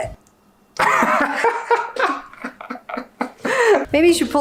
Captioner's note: laughs